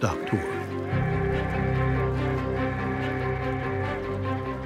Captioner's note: train whistle blowing